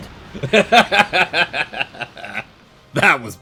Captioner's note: hearty laugh